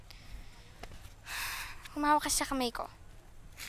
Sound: sighs

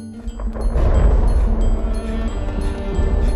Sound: thunder rolls

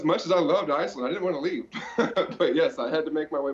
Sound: laughs

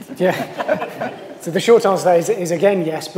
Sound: laughter

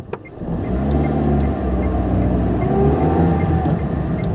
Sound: car driving sounds

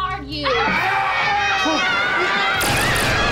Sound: screaming

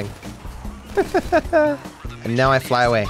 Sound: laughs

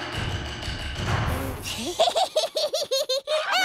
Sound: laughs

